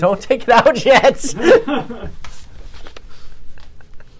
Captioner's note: laughs